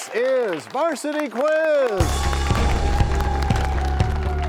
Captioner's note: crashing sound